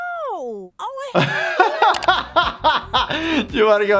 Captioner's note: laughter